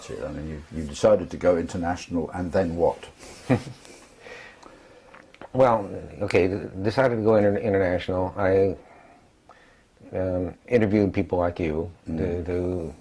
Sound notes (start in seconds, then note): 3.3 laugh